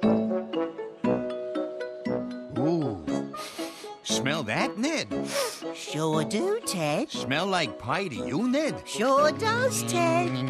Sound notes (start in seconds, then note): 3.4 sniffs; 5.2 sniffs